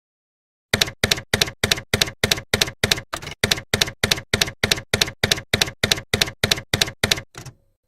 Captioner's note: typewriter keys clacking